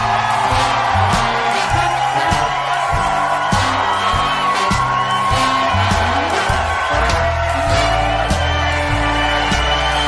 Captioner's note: applause